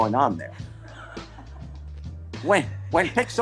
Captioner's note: laughter